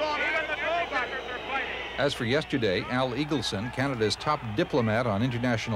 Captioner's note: crowd boos